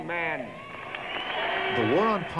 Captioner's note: applause